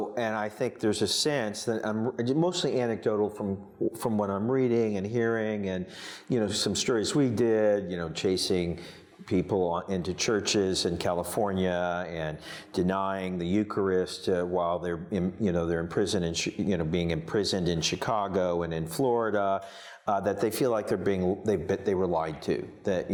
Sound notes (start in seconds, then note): none